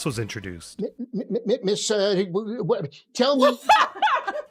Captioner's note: funny noises